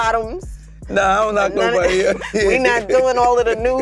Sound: laughs

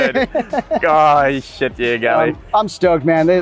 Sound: laughs

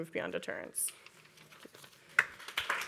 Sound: papers rustling; audience applauding

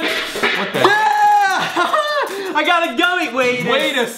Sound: laughs

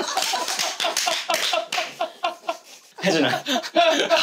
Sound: clapping out of joy; clapping like a seal

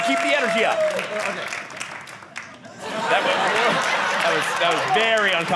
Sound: audience laughing

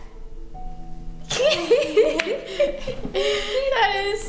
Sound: both laugh

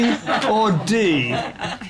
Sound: laughter

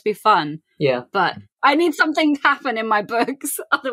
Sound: laughing

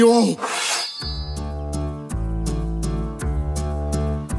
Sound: sword whooshing

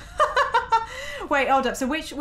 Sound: laughing

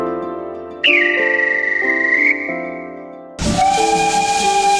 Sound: conductor Signalling the Departure; steam locomotive whistle sound

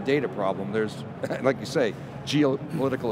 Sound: laughs

